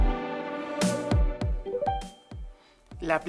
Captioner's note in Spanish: sonido de teléfono